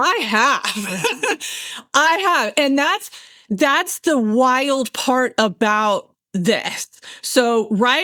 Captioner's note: laughs